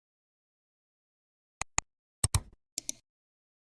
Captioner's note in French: 3 différents clics